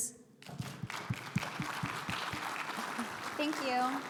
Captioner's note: audience applauds